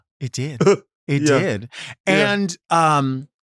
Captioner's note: Sapphira guffaws